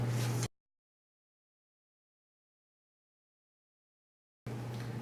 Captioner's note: silence